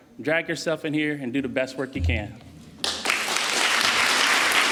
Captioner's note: applause